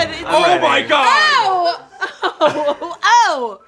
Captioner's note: laughter